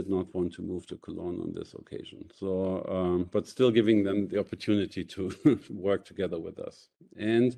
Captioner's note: chuckles